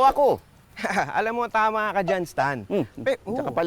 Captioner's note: laughs